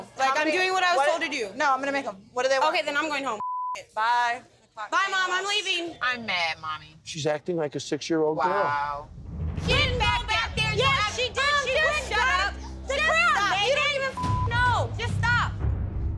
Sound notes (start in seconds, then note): 3.4 beeping; 14.1 beep